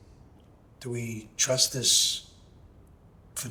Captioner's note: speaking in Italian